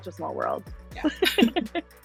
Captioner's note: laughing